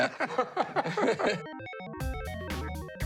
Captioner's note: laughter